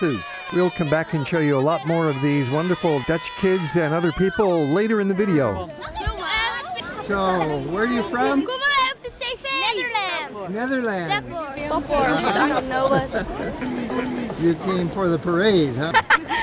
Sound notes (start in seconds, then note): 7.6 kids talking together